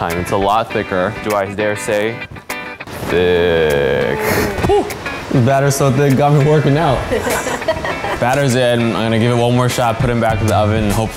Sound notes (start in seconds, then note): 7.0 laughing